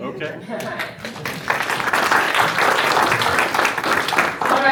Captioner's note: applause